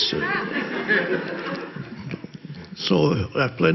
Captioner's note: audience laughs